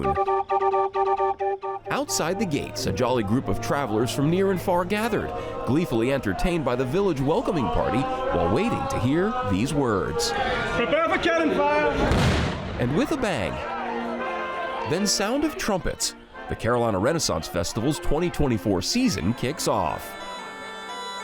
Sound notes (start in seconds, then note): 0.0 bright music; 12.0 cannon fires; 21.0 folksy music